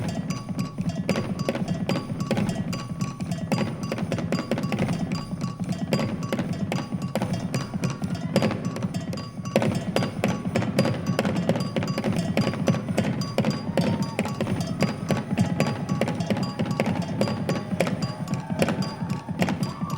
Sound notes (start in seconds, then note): 14.8 audience cheering